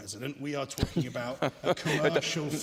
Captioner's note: laughter